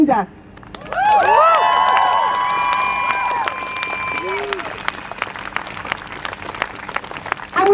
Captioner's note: crowd cheers